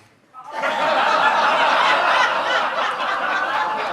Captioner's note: audience laughs